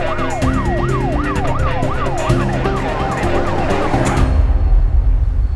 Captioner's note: police sirens blaring